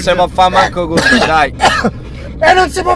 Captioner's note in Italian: tossisce sempre peggio